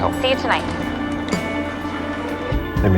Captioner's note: phone clicks off